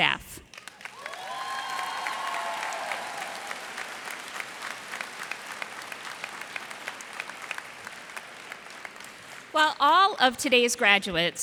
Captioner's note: cheers and applause